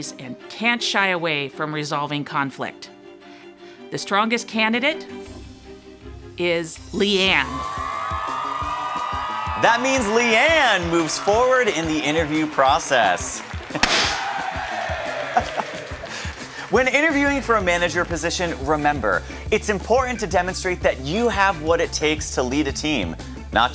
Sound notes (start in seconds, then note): 6.9 audience applauding; 13.7 audience cheering; 13.7 confetti explodes